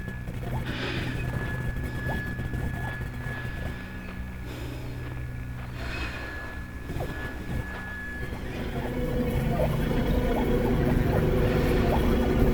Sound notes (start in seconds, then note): 1.0 heavy breathing continues; 9.3 suspenseful music